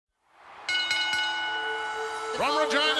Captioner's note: audience cheers; bell rings